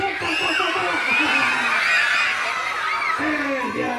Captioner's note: children screaming